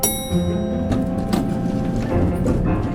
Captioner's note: elevator dings...doors open